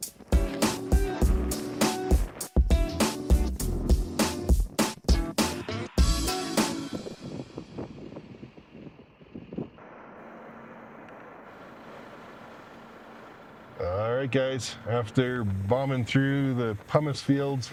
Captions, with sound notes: (wind blowing) All right guys, after bombing through the pumice fields